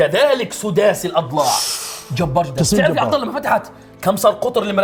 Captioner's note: gasps